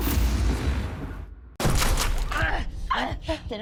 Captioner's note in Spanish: Disparos